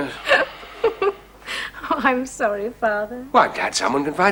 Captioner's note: giggles